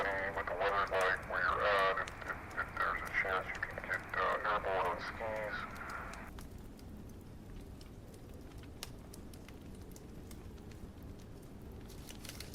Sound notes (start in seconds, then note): 8.4 fire crackling